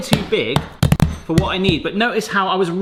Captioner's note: hammer rapidly slamming